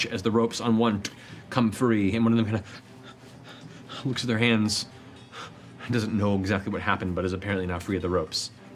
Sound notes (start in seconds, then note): 2.2 breathing heavily